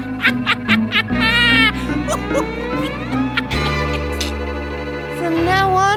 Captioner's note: laughing